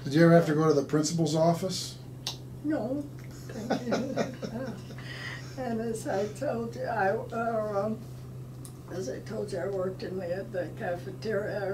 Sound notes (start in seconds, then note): 3.4 laughing